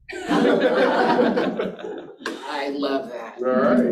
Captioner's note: participants laughing